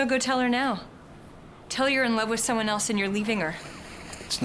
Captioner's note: none